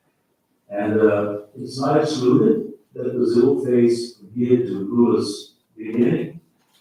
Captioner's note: faintly speaking